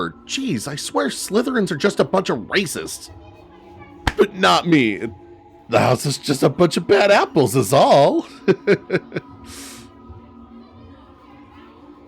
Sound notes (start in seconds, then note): 8.2 laughs nervously